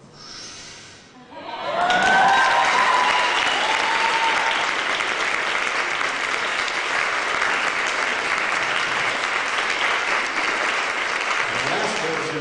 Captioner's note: applause